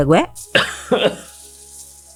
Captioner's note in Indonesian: batuk